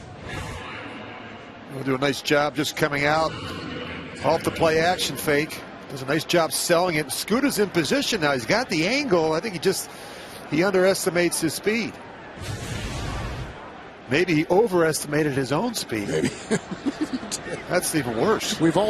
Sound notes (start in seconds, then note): 8.0 laughter